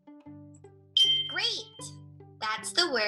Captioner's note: beep